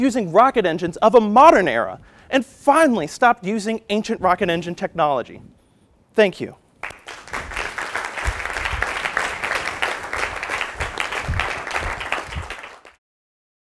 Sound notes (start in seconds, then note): 6.8 applause